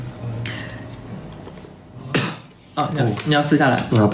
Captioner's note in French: Tousse